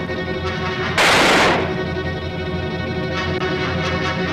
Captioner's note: gun fires